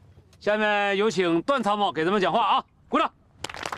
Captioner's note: applause